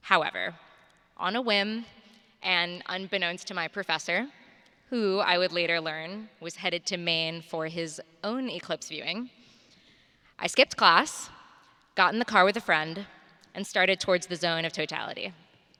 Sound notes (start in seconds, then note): none